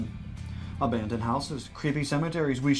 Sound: announcer voice

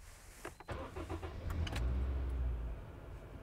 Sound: car engine starts

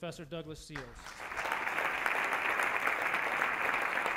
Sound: audience applause

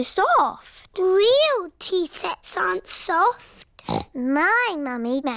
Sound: snorts

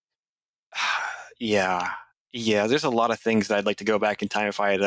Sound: sigh

